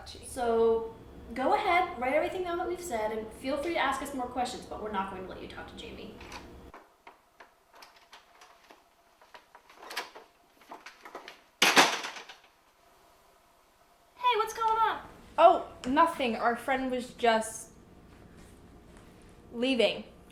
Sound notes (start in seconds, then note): 9.5 door opening and closing